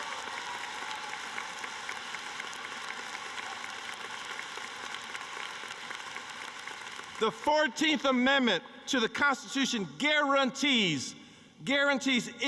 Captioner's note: cheering and applause